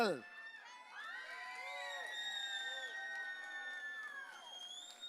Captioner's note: audience cheering